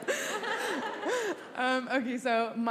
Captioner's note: congregation laughs